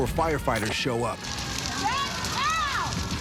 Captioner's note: sirens blaring